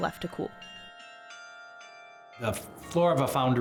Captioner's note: bells chiming